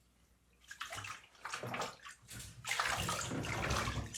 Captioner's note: water splashing